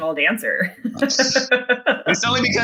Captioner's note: laughing